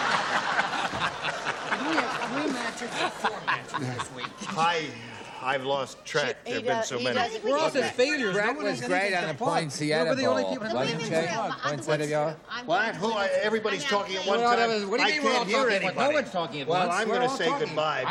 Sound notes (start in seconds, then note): 0.0 laughter; 12.4 chatter